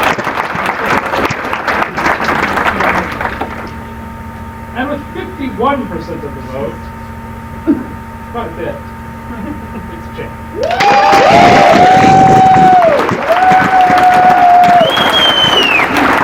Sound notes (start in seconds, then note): 10.6 applause